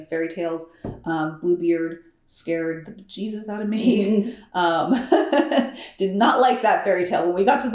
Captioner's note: laughs